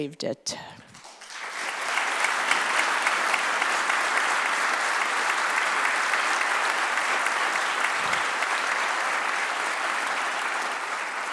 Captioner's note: applause